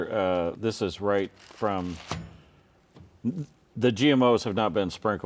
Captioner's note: product dropping